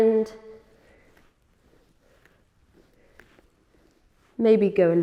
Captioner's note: rustling sounds